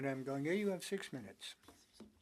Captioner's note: speaking French